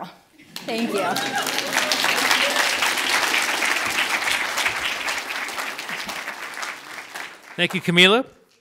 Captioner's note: audience applauds and cheers